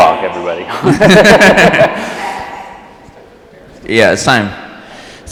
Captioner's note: all laughing